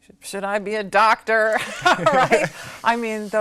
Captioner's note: laughter